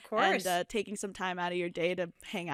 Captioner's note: none